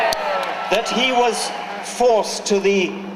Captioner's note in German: Jubeln